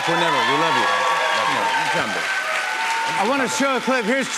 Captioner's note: cheers and applause